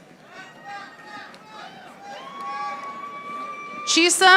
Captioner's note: audience applauding